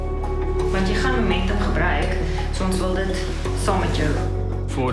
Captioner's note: woman speaking in foreign language